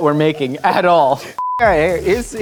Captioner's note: high pitched beep